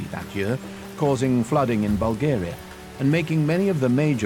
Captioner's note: rain pattering